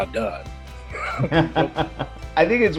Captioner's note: laughs